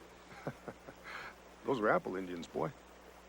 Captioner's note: laughs